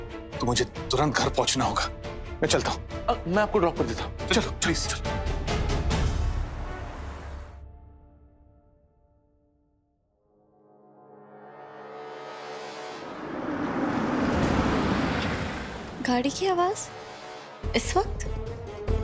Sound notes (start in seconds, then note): 12.4 car moving